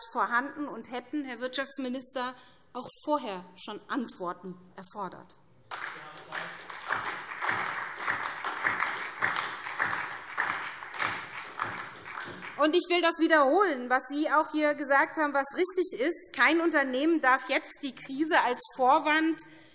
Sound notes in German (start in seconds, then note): 5.6 Beifall SPD